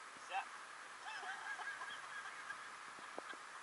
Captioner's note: laughter...Laughter